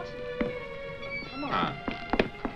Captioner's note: door squeaking